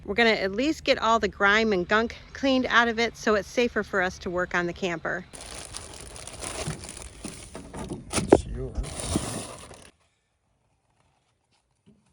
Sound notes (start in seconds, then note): 5.3 bag Rustling